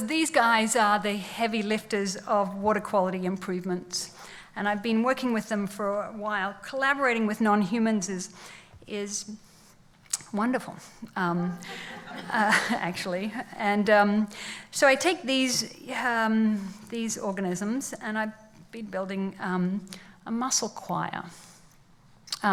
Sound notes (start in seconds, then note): 11.4 laughs